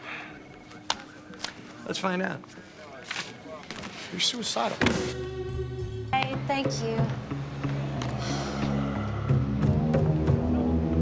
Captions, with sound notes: Let's find out. You're suicidal. (sighs)